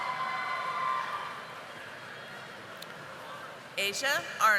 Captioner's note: audience applauding